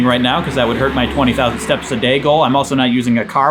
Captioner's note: car zooming